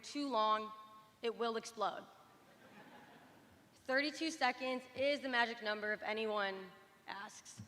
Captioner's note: laughter